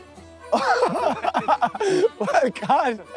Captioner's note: laughter